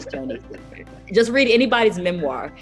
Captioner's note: laughs